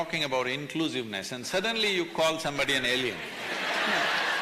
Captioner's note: laughter